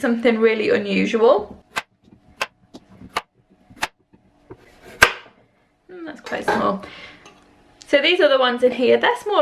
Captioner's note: chopping sounds